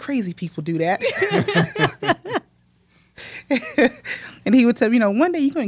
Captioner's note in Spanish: La risa